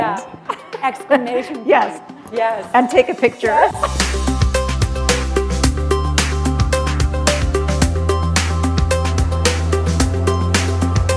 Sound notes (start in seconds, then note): 6.3 chuckle; 8.2 background music